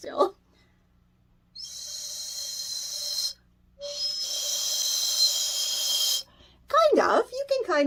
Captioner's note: faint whistling sound